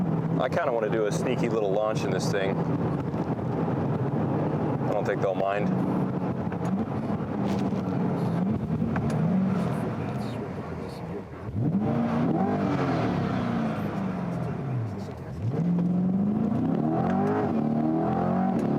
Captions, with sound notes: I kind of want to do a sneaky little launch in this thing. I don't think they'll mind. (engine revving)